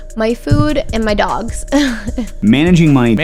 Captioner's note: laughter